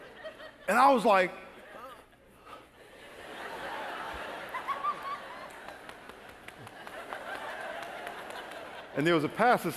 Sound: laughter

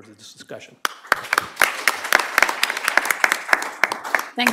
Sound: applause

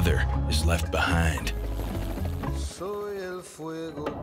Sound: helicopter buzzes

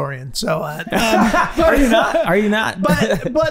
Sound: Rob laughing

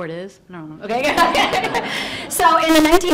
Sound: audience laughs

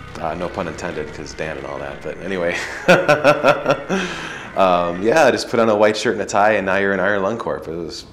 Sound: laughs

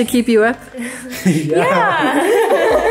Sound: giggles; everyone laughs

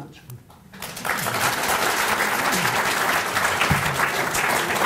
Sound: applause

